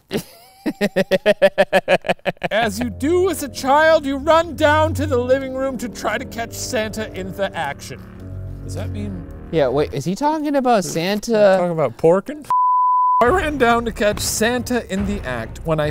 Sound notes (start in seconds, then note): 0.1 laughs; 12.5 beep